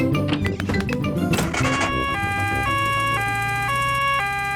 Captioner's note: siren wails